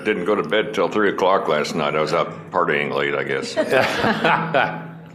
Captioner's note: laughter